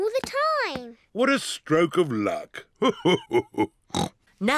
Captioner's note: laughs; snorts